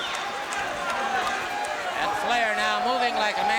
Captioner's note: crowd cheering